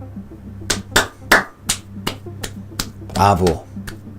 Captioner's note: claps